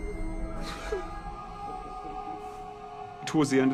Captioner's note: gasping